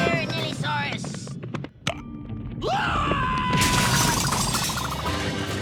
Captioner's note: suspenseful music; thief yells